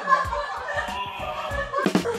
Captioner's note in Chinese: 痛苦的吶喊